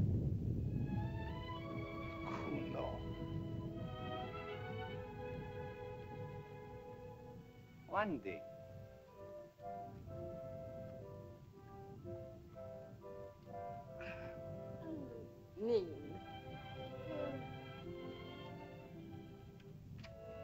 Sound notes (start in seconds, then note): 0.0 volcano rumbles; 0.2 sentimental music; 2.4 Tumak speaks in caveman language; 4.3 sentimental music; 4.3 volcano rumbles; 9.6 soft music; 15.5 Loana speaks in caveman language; 18.1 soft music